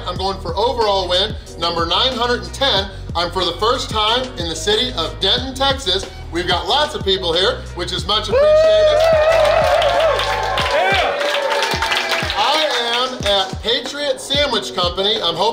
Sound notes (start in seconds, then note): 8.3 people cheer happily